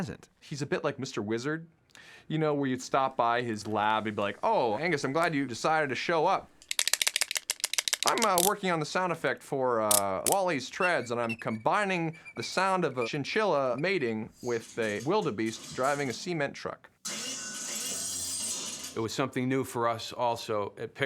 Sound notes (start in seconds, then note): 6.6 clacking; 9.9 clicking; 9.9 squeaking; 16.8 metallic clattering